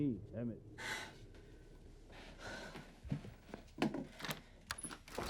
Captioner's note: sighs; lock disengages